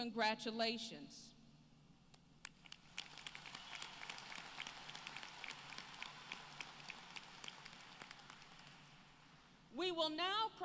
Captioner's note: applause